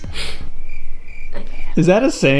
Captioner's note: crickets chirping